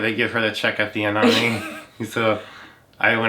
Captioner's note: laughs